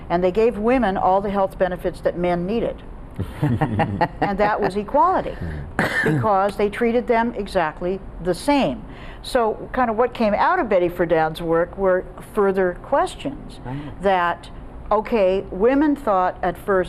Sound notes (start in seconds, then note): 3.2 chuckling